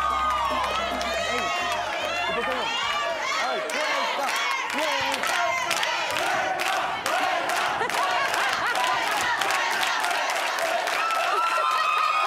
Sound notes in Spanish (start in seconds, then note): 0.9 Exclamaciones